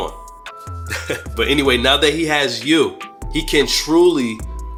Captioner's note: chuckles